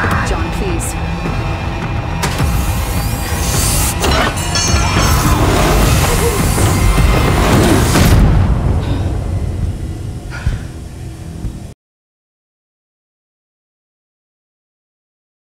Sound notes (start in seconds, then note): 2.3 air releasing; 2.9 metal clanking; 6.9 door slams